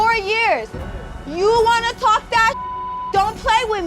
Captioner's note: beep